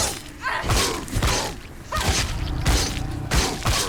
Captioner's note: none